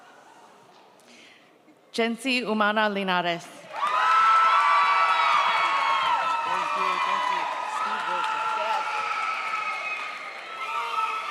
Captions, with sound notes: Jensee Umana Linarez. (audience cheers)